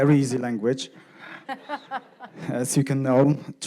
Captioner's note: audience laughing